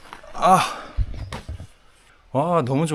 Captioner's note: old man noises